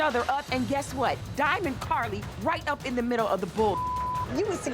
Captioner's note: beep